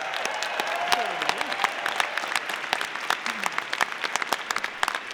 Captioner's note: audience applauding